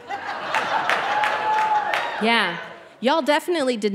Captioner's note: audience laughing